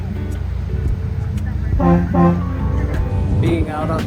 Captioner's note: Portland Spirit double honk